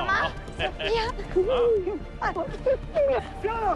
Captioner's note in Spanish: Risas